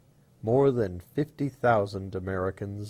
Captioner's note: Arabic